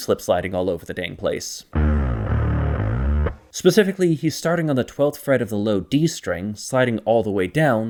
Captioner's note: bang